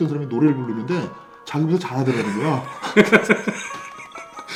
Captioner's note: laughs